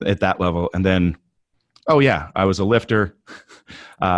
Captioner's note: laughs softly